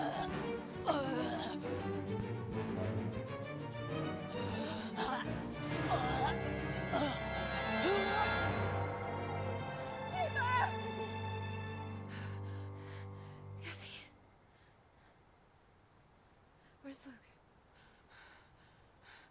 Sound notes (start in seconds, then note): 0.2 gurgling; 9.9 yelling